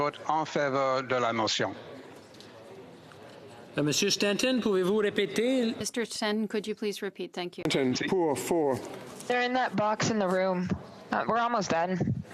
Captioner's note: speaking FRENCH